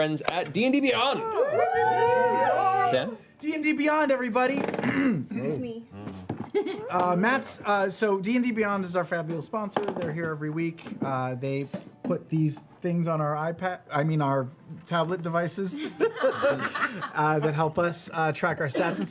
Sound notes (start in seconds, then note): 4.8 clears throat